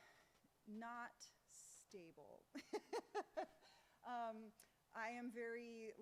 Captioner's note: laughs